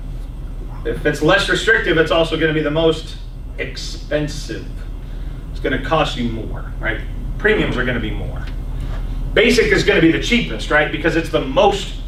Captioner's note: coughs; clears throat